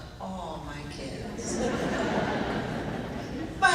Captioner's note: laughing